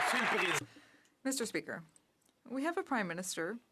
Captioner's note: some Applause